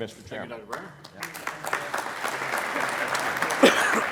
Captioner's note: applauding